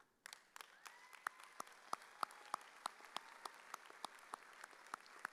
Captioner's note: audience cheering